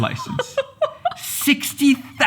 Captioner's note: laughs